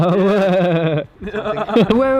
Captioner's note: weird Boss Noise